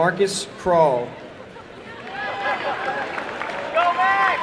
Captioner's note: applause and cheering